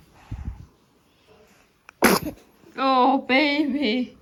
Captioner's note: sneezes